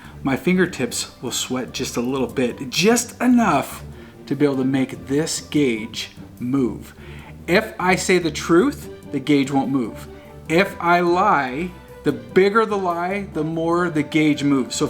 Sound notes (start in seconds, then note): none